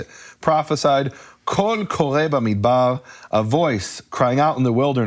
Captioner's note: speaking foreign language